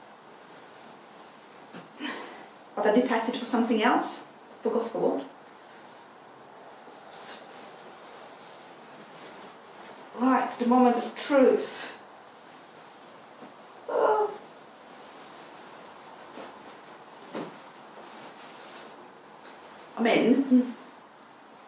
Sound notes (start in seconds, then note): 12.0 groans